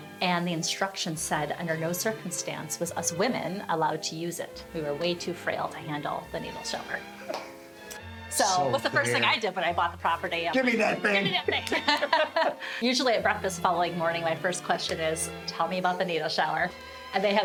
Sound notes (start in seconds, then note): 7.3 laughs; 10.6 laughs